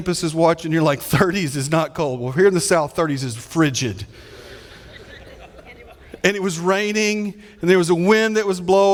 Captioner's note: audience laughing